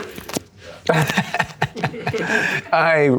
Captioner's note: laughs